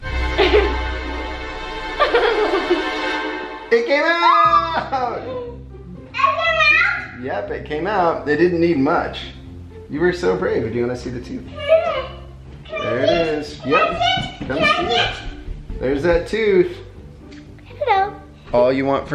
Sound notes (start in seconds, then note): 0.0 suspenseful music; 2.0 laughing; 3.7 yells